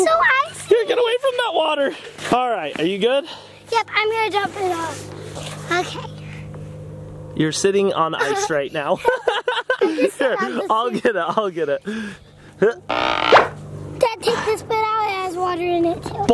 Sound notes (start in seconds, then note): 8.8 both laugh; 13.1 cork popping